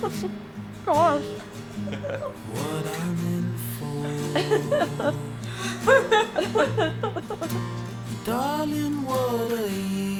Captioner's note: laughter